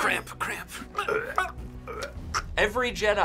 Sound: both choking

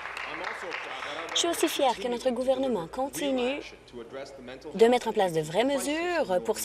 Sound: applause

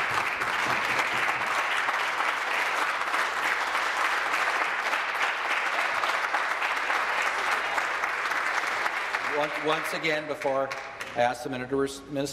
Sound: applause

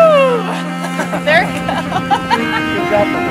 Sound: laughs

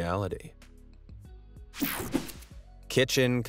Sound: air whooshing

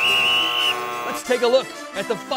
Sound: whistle; buzzer

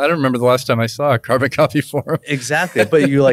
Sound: laughs

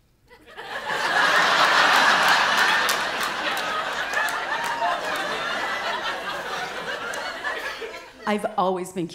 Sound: laughter

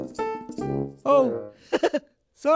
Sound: embarrassed giggle

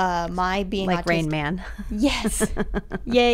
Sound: laughter

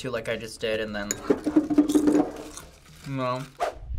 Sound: bowl clatters

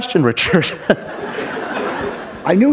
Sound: chuckle; laughter

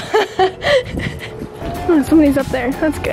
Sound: laughing

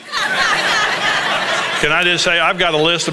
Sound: congregation laughing

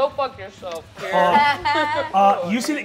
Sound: all laugh

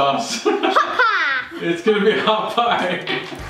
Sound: laughing

